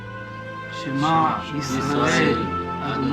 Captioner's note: all reciting Hebrew prayer